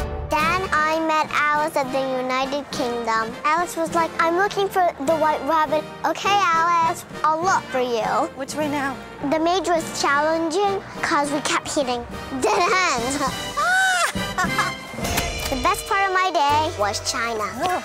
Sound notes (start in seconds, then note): 12.4 laughs